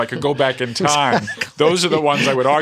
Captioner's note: laughter